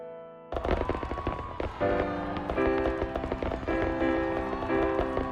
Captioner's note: fireworks exploding, crowds cheering